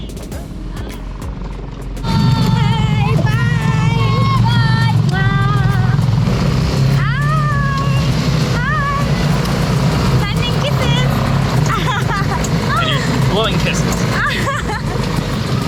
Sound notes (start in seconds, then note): 5.0 blows kiss; 9.4 blows kiss; 11.6 laughter